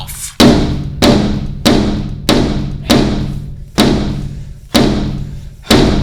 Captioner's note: hammer pounding on glass